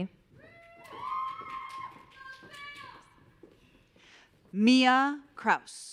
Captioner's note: audience cheering